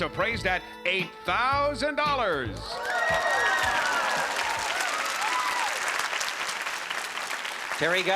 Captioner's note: applause and cheering